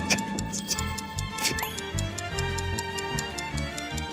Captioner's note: the sound of losing 30 seconds